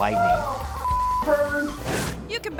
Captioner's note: tone beeping